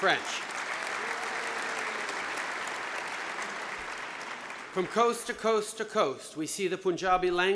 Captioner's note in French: Applaudissements